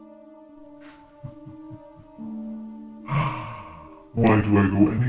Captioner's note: Chemock chuckles